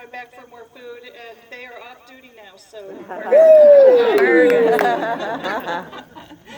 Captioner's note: laughter